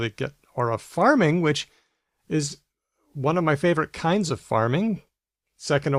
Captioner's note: none